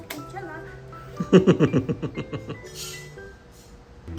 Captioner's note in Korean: 만족 웃음